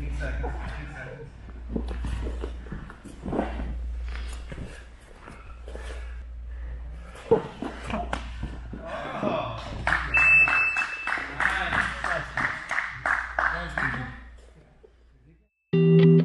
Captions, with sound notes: Oh! (alarm beeps) (spectator applauds) - Thank you.